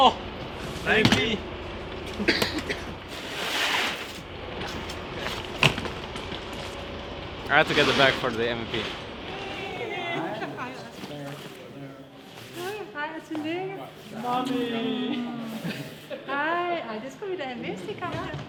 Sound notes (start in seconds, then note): 13.0 Danish; 16.8 Danish